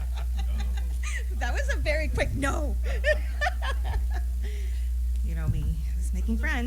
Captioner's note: laughter